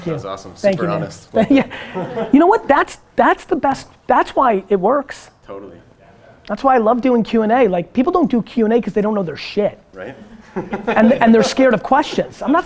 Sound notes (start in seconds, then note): 1.4 Gary laughs; 10.0 group laughter